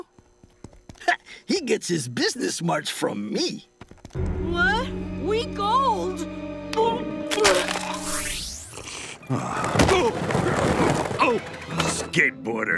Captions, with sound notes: Ha, he gets his business smarts from me. What, week old? [barfing] [groaning] Skateboarders.